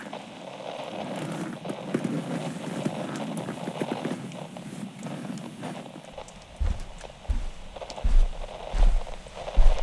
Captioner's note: Alastor stands and leaves room fx